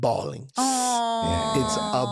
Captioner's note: sighs